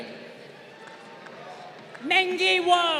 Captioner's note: crowd applauding